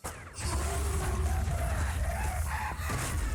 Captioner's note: bone-fide skull laughter